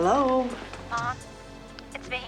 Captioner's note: on phone